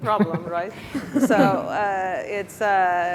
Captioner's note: laughing